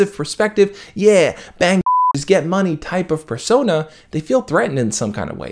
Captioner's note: beep